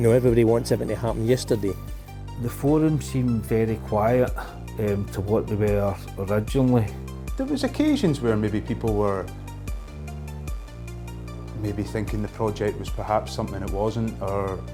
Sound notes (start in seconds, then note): none